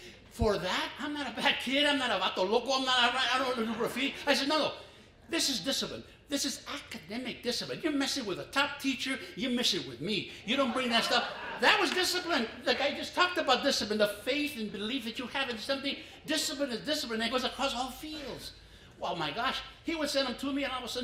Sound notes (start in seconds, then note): 3.8 foreign language